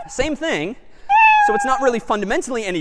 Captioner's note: meow